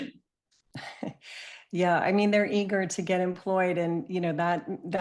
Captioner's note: chuckles